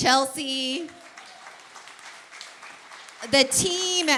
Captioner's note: applause